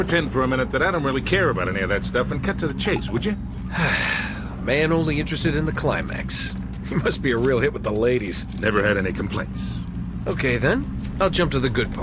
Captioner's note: in-game audio